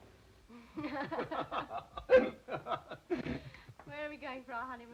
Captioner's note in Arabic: كلاهما يضحك